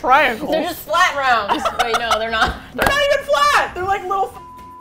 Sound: laughs; laughs

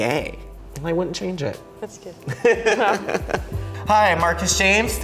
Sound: laughing

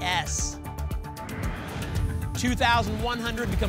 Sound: whoosh

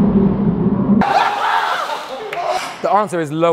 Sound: group laughs wildly

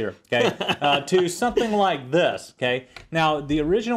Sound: laugh

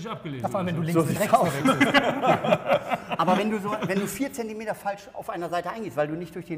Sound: laughter

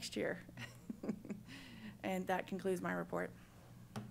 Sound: chuckles

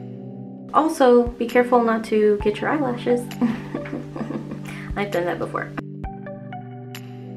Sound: giggles

